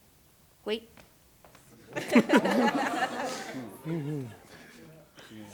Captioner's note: laughter